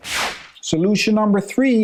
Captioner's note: transition whooshing